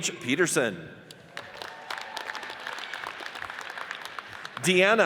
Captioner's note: audience cheers and applauds